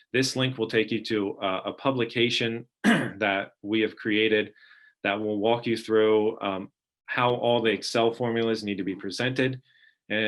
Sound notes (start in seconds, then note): 2.8 clearing throat